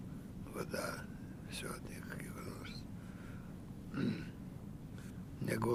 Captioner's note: clears throat